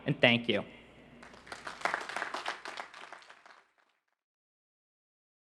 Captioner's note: crowd applauding